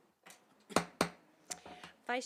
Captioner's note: gavel hitting dais